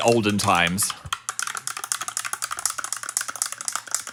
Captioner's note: spoon tapping